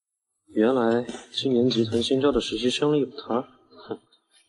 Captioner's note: Hum